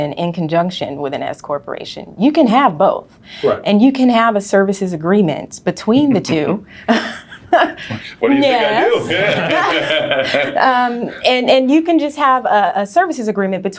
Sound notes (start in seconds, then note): 10.4 laughing